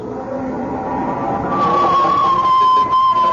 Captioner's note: horns